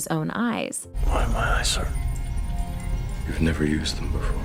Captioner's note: hoarsely